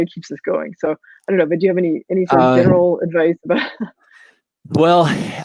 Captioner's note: laughs